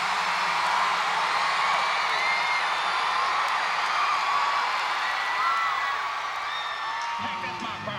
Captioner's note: audience cheers